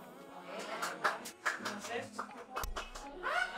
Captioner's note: applause; laughter